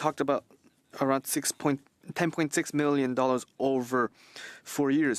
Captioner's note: speaking French